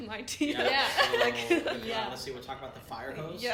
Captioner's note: laughter